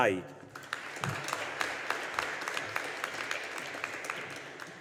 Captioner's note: audience applauding